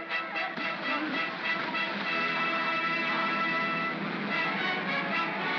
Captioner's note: triumphant music; water splashing; mob cheers; triumphant music